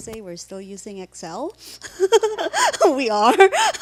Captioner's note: laughing